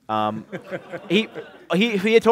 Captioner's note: laughter